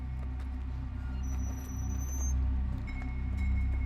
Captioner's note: door squeaks; eerie music